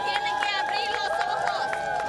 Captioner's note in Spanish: gritos